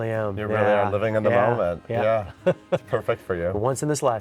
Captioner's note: laughs